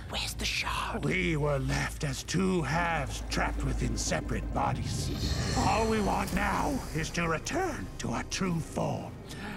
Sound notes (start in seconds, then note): 5.1 hissing sound